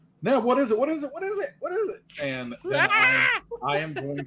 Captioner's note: laughing